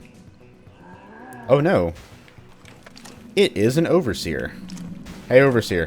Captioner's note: sarcastically